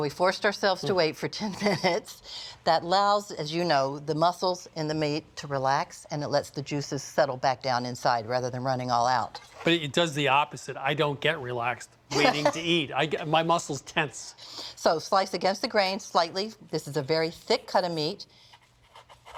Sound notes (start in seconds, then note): 12.1 laughs